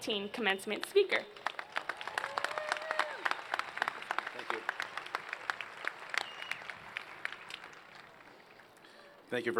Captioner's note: applause